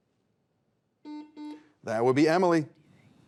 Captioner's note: buzzer beeps